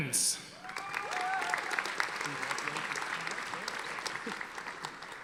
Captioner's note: audience applauding